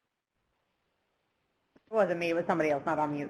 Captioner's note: pause